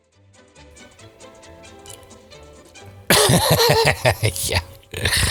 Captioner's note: laughs